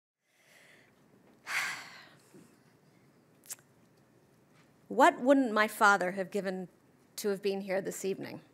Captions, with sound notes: - (sighs) What wouldn't my father have given to have been here this evening?